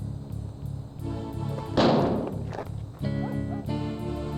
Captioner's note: loud knock